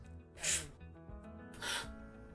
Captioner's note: slurping